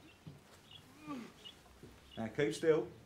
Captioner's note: Gordon groans